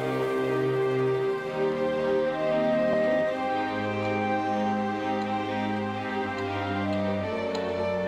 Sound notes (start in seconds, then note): 3.9 ticking